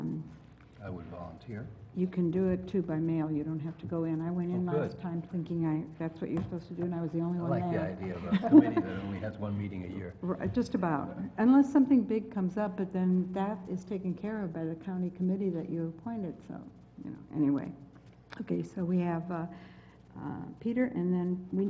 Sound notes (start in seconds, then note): 8.2 laugh